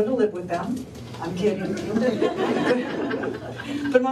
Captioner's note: laughter